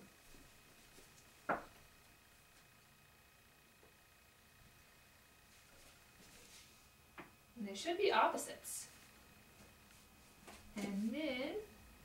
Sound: magnets hitting fridge

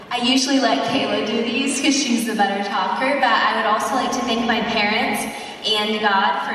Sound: none

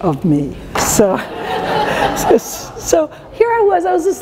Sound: laughter

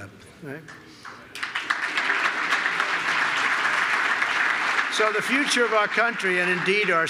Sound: applause

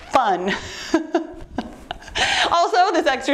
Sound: chuckles

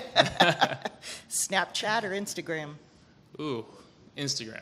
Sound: laughs

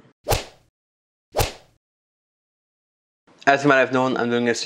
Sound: whip cracking

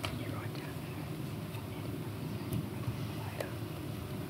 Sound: whispering

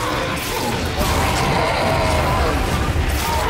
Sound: wraith howls

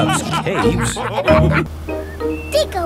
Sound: all laughing

